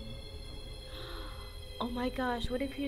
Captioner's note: gasp